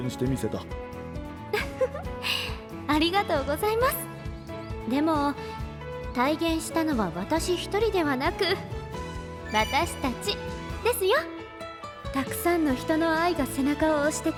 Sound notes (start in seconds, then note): 1.2 laughs